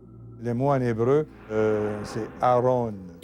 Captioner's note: speaking in foreign language